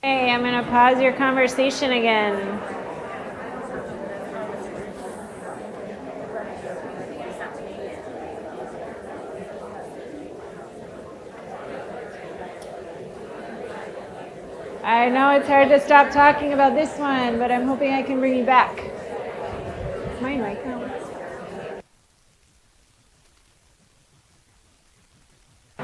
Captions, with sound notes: - Hey, I'm going to pause your conversation again. (audience chatter continues) I know it's hard to stop talking about this one, but I'm hoping I can bring you back. Is my mic not on?